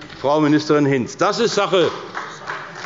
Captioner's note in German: Beifall bei der CDU